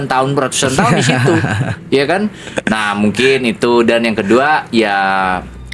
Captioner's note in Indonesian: tertawa